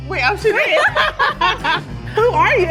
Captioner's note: laughing